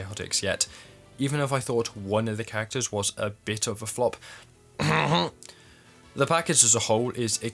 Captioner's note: clear throat